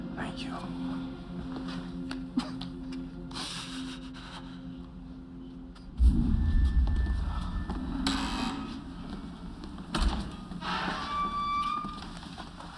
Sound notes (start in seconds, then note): 2.3 sobs; 7.9 door buzzes, creaks